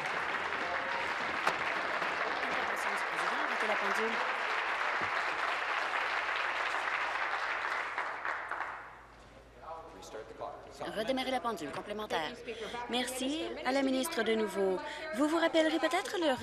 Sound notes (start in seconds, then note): 2.8 applause